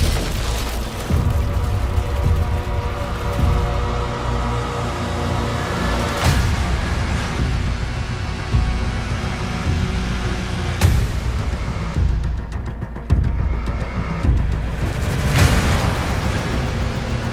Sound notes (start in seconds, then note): 6.1 intense music playing; 11.4 mechanical breathing